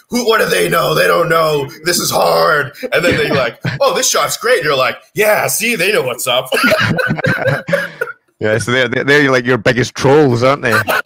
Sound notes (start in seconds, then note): 6.5 both laugh